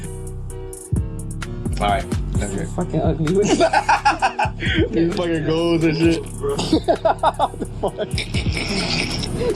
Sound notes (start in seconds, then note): 3.4 laughing; 6.6 cackling; 9.4 laughing